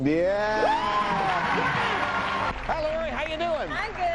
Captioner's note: all cheer